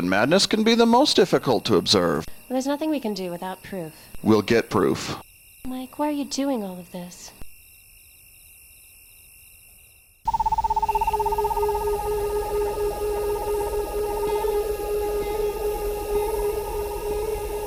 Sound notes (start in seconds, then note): 10.2 animal chittering; 10.2 tense music